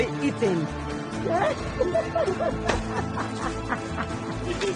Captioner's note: laughing